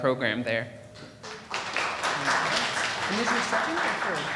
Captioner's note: audience applauding